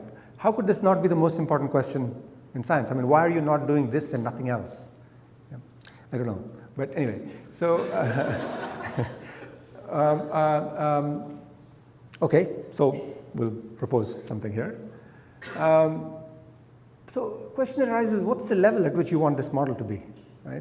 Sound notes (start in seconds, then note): 7.7 laughter